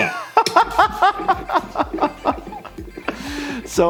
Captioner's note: laughing